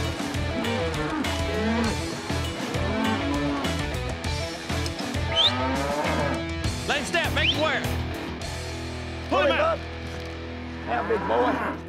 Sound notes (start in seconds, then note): 5.2 whistling